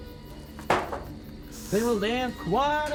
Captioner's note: door clattering